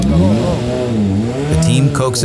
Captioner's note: engine revs